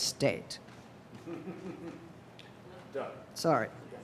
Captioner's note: laughing